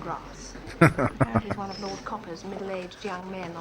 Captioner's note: laughing